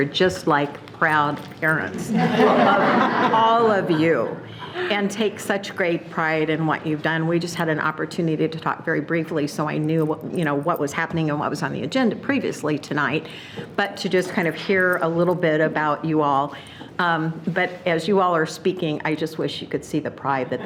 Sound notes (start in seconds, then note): 2.1 everyone laughing